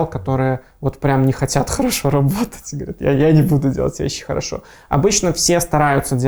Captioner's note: laughing